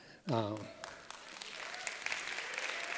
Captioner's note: applause